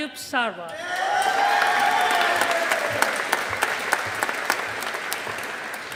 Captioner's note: audience applauding